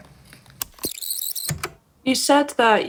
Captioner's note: the tape whirrs fast forwarding and then plays